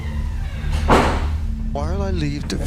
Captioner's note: door banging